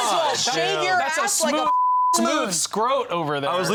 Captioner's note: beep